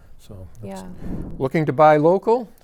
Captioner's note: graphics whooshing